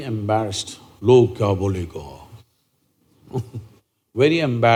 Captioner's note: laughs; speaks in Hindi